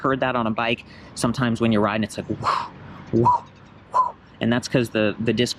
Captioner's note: whooshing sound